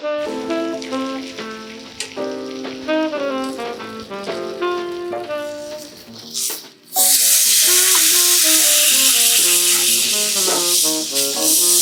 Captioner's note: sizzling caramelized sugar